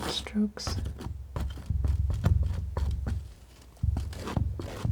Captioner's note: scratching